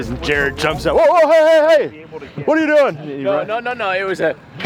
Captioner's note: shouts